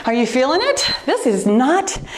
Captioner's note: timer beeps